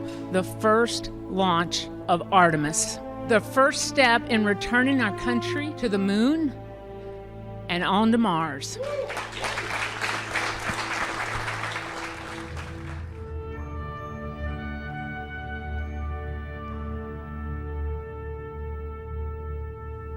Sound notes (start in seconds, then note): 8.8 applause